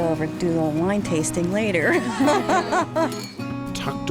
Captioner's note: laughing